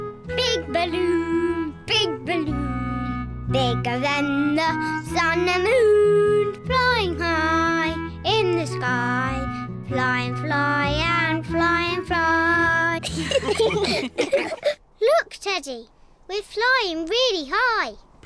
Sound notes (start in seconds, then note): 13.0 all laughing